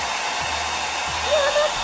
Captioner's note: dryer whirring